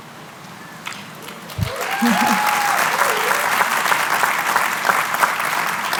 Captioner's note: cheering, applause